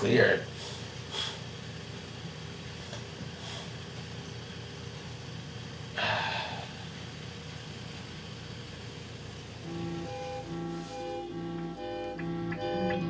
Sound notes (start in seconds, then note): 0.5 sniffing; 5.9 sighing; 10.5 dramatic ominous music